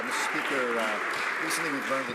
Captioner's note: speaking ukrainian